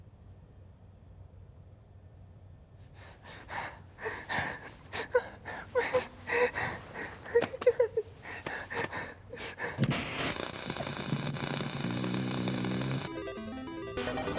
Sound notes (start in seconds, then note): 3.7 whimpering; 9.7 tv static noises